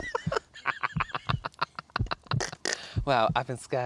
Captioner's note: witches Cackle